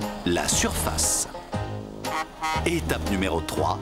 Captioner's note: honking